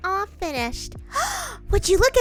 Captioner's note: gasp